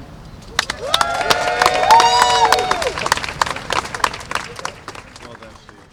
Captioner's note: cheers and applause